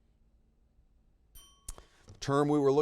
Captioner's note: bell rings